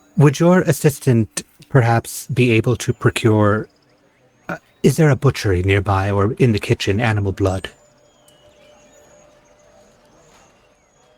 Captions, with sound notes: Would your assistant perhaps be able to procure... Is there a butchering nearby or in the kitchen animal blood? (Clicking)